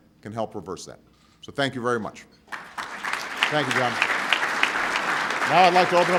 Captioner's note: applause